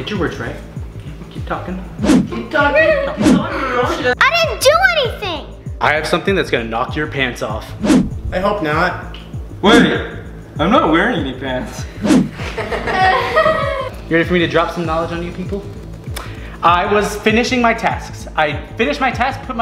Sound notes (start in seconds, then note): 2.8 Red laughs; 12.3 family laughs